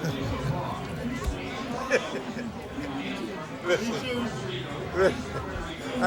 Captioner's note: laughing